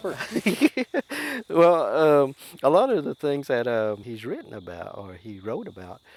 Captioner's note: laughing